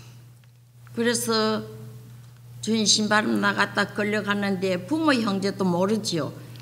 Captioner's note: speaking foreign language